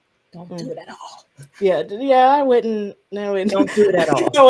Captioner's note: whispering